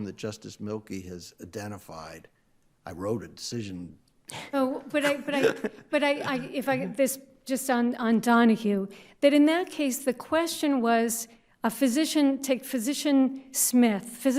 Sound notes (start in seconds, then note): 4.4 laughs